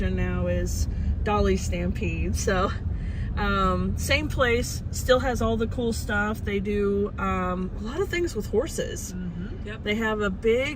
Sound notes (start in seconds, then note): none